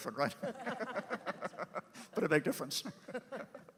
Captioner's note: laugh